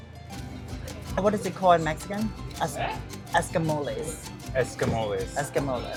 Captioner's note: Spanish